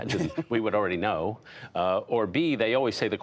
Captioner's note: laughter